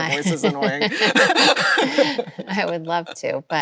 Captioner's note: both laughs